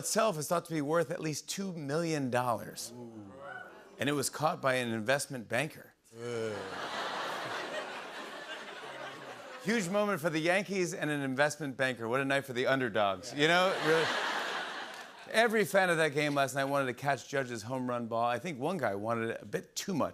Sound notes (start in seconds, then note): 6.5 laughter; 13.4 laughter